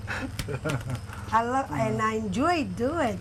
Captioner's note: laughter